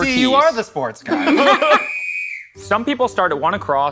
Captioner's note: laughter; whistle blows